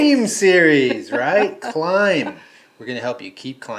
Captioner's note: laughing